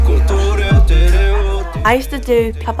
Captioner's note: family chattering